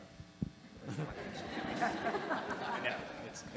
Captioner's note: audience laughing